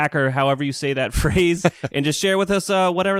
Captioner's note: laughs